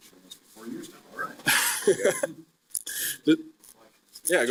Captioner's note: scattered laughing